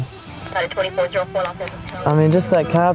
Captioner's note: police radio